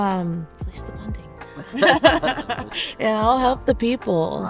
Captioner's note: both laugh